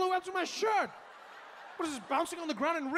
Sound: audience laughing

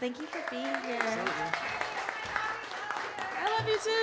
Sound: audience applauding

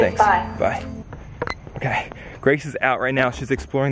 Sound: phone beeps

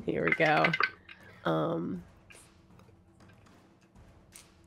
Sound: dice clatter

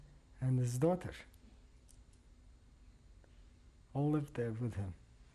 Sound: pauses for 3 seconds

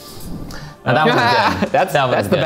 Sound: laughing

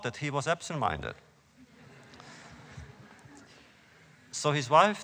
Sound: laughter

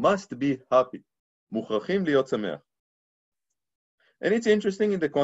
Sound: speaking Hebrew

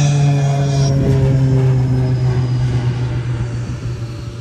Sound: airplane buzzing

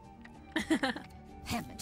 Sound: laugh

